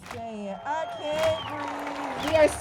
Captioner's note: crowd chants